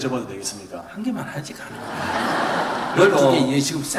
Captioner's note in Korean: 청중 / 스님 웃음